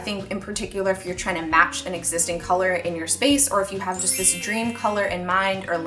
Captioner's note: chimes